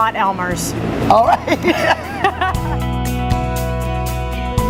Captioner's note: laughs; inspirational music